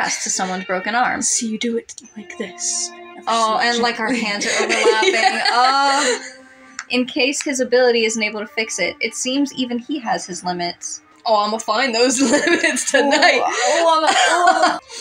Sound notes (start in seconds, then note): 3.4 laugh; 12.0 laughing